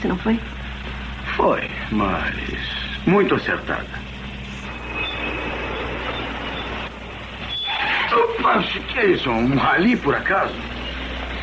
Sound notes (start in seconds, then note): 7.5 grunts